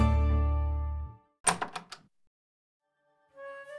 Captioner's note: door opens